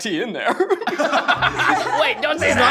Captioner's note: laughter